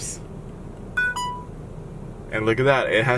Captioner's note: beeps